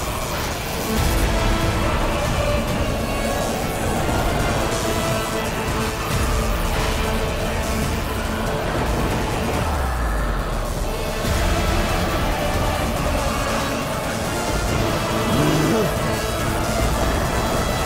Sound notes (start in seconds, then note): 14.7 grunting